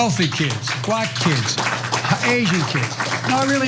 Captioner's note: applause